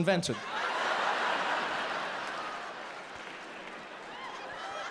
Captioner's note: audience laughs